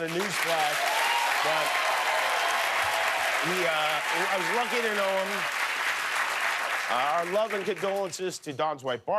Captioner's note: cheers and applause